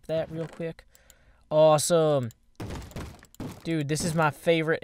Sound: bang bang bang

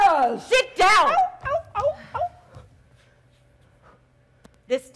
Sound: Sharik softly whimpering

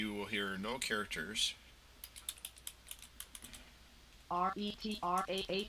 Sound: sound of typing

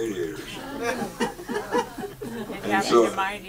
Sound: audience laughs

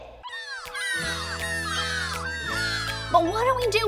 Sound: cheering happily

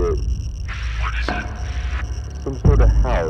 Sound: over Radio

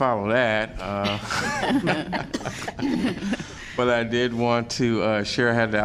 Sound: laughter

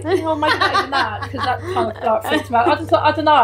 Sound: laughing

